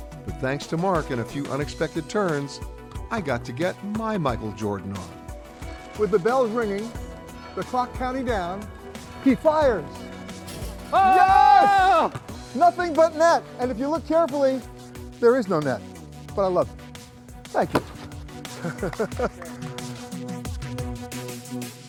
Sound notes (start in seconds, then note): 10.9 cheering